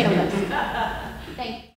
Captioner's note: audience laughs